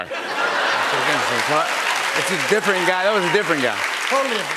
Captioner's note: laughter